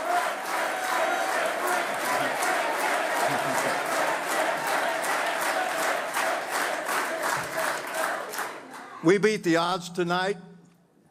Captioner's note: applause